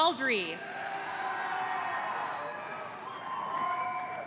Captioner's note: audience cheering